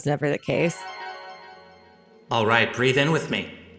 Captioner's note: magical chimes ring